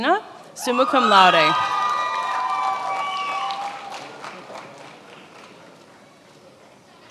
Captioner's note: attendees applauding and cheering